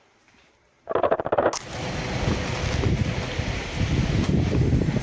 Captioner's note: portal sound